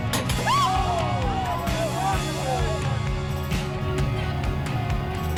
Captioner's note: woman yells in surprise